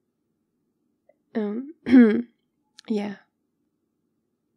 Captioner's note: clears throat